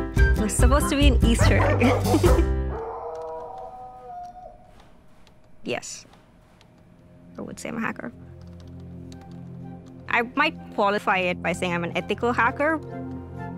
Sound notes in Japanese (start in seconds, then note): 2.7 犬の遠吠え